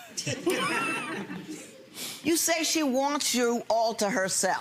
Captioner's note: audience laughs